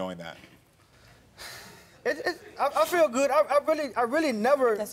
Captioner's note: exhales sharply